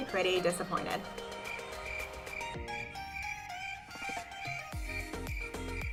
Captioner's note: cricket chirping